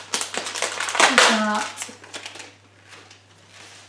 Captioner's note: plastic packaging tearing